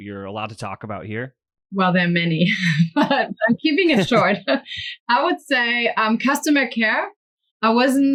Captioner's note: laughs